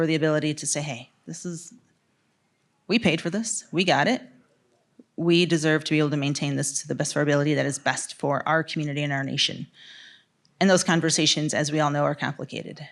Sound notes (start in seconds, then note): none